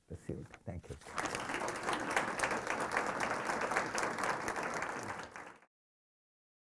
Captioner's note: applause